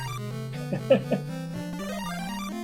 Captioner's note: chuckles